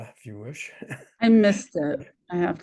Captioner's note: chuckles